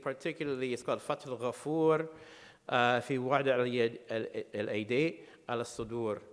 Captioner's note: speaking in foreign language